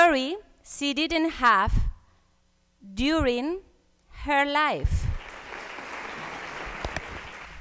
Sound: applause

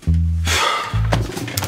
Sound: exhale

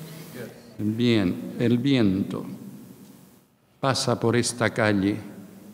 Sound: speaking in a foreign language

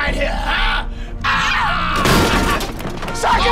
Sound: laughs

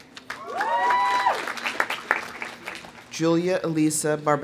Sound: audience applauding; audience cheering

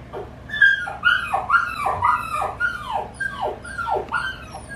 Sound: dog whining and howling on TV

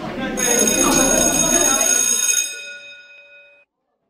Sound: people chatting; bell rings

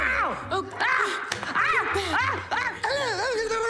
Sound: yelling

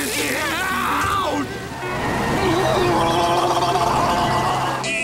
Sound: screeching, screaming; laughing

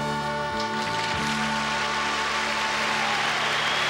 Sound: audience applauding and cheering

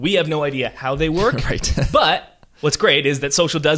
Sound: laughs

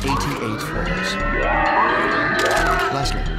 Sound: screaming

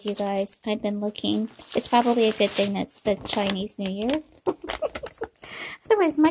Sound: laughter

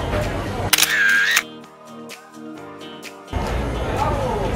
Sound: camera clicks

